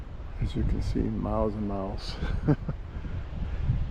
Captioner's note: laughter